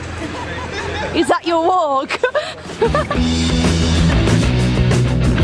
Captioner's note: laughs